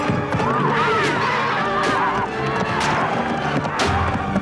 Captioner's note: spear stabbing